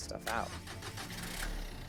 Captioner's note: engine starting